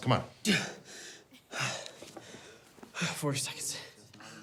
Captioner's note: gasps